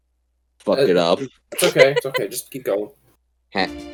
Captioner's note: laughs